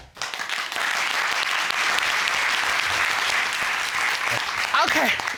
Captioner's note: cheers and applause